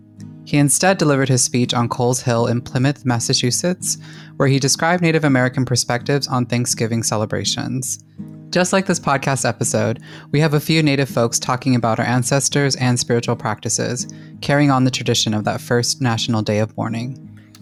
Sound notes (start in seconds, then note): none